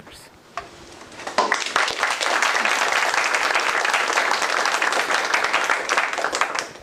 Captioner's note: applause